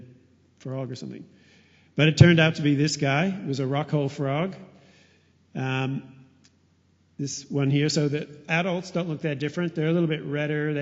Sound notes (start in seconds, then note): none